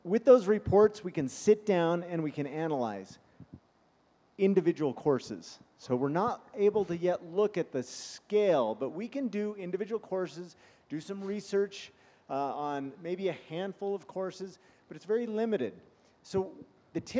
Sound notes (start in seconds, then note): 8.1 sniffing